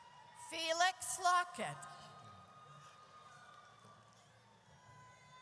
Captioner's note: audience cheers